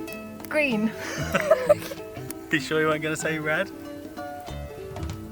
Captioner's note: laughing